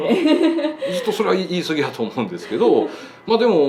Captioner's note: laughs